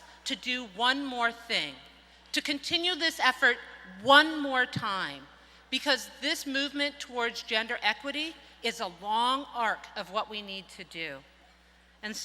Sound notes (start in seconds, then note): none